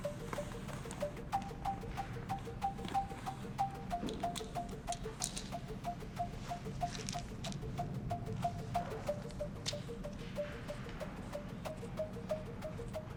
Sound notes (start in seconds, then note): 4.3 pills rattling; 8.7 rhythmic and quietly tense electronic music